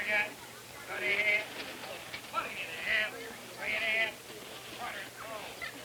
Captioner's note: auctioneer chanting; outdoor auction crowd chatter